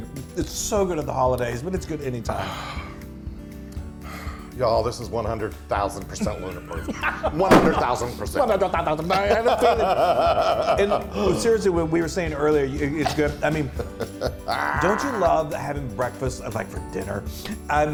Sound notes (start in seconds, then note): 9.0 laugh